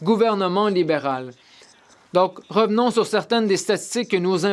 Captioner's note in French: voix de l'interprète